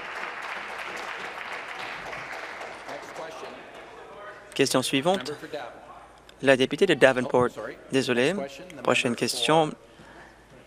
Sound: applause

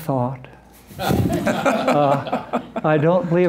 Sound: laughter

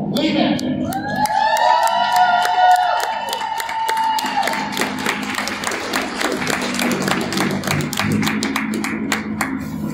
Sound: crowd cheers and applauds

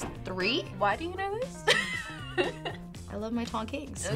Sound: laughs

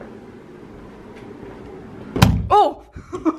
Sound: smack!

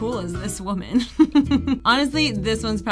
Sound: laughs

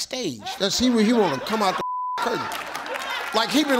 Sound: beep

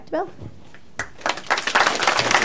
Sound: applause

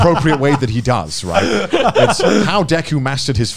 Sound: laugh

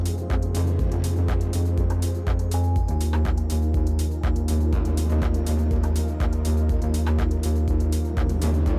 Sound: metronome

